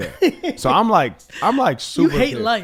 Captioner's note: laughs